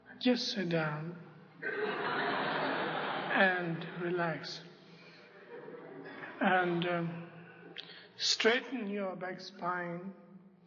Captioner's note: laughter